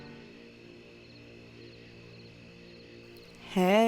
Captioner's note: insects chirp